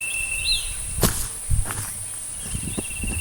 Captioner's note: footsteps